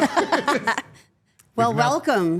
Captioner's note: all laughing